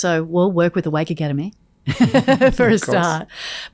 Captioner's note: laughs